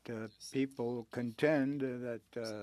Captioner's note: speaking French